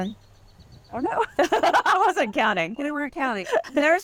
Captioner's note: laughing